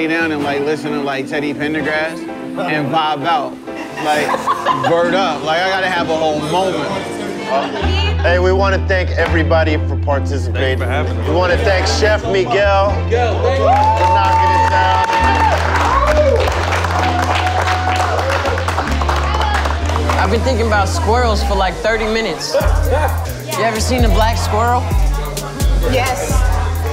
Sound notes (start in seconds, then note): 7.4 laughter; 15.0 cheers and applause